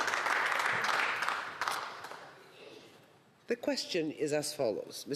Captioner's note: some Applause